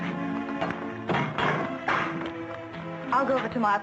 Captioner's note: safe clanking